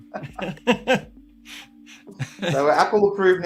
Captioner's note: laughing